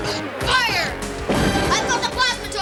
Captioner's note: boom!